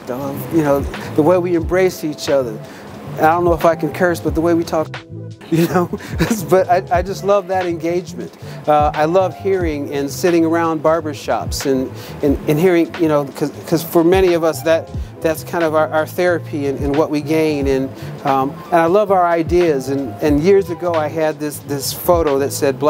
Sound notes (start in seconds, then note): 5.4 giggles